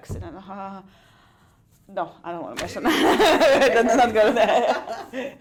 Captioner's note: laughs